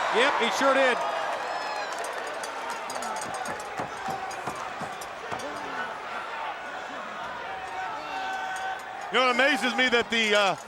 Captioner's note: applause